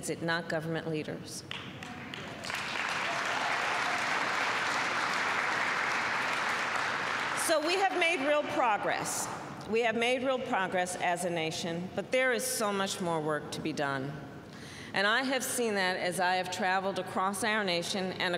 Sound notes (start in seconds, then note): 1.4 applause